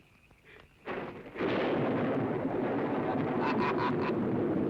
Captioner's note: thunder rumbling